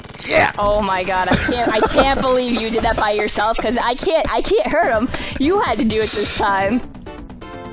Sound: laughs

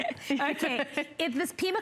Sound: laughter

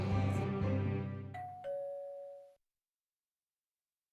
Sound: doorbell rings

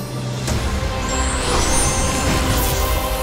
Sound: crackling

